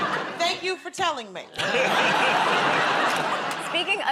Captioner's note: laughter